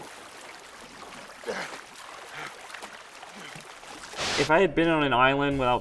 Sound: grunting and panting

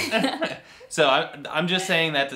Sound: both laughing

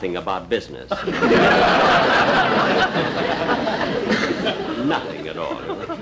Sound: audience Laughing

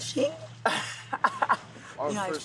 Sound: laughter

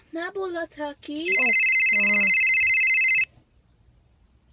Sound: phone rings

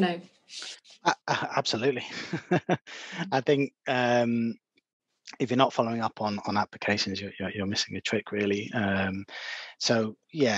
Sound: laughs

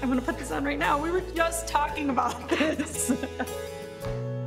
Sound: chuckling

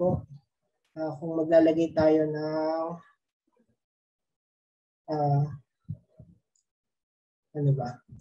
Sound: pause

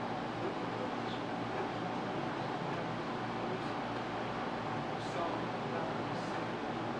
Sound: none

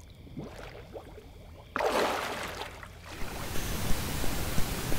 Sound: water bubbling

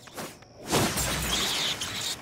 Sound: smashing

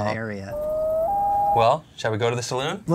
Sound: loon call

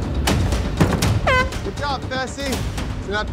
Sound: air horn blaring

